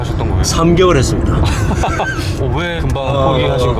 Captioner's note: laughs